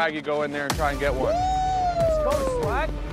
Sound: group hollers

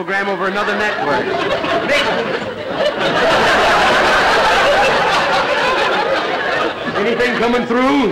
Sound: audience laughter

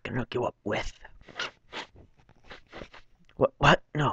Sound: sniff

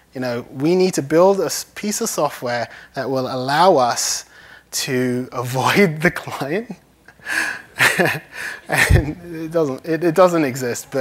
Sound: laughs

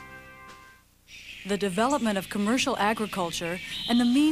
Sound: birds chirping

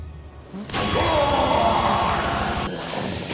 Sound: roars

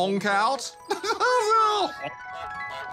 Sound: laughs

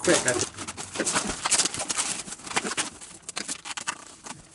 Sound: plastic rustles

